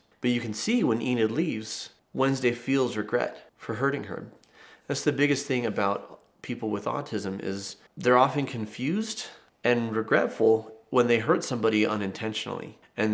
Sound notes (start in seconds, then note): none